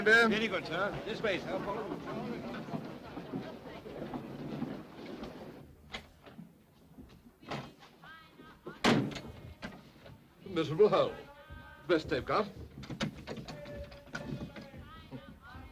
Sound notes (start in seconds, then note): 5.9 door opens; 8.8 door closes; 12.9 door locks